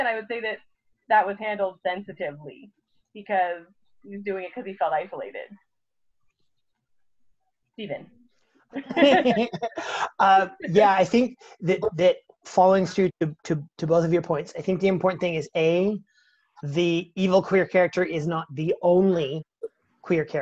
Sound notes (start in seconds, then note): 8.7 laughs